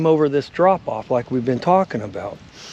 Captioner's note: fish splashing